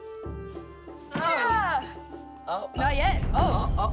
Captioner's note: traditional music; Lizzy and Gordon groan